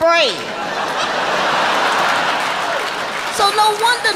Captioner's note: audience laughing